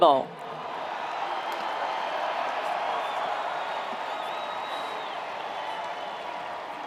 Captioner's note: attendees cheering; attendees applauding